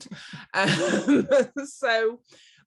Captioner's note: laughs